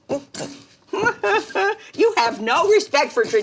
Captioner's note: Dory humming; mama humming